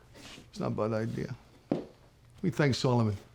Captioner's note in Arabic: لهجة اسكتلندية